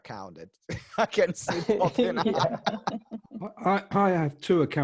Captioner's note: laughs